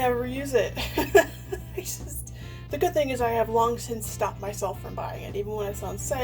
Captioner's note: laughs